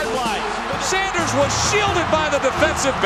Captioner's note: voiceover